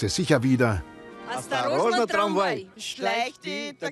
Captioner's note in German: Sie sprechen russisch